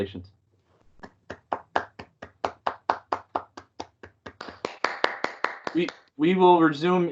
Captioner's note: applause